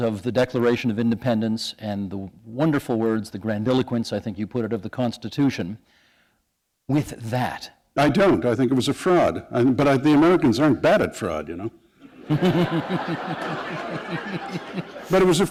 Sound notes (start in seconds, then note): 13.9 laughter